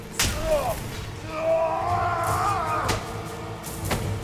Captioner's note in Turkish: Boğuşma sesleri